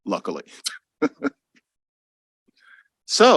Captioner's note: laughs